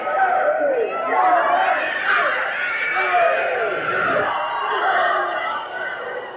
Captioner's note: audience shouting; referee starts counting